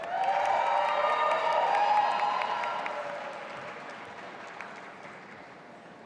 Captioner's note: audience applauding and cheering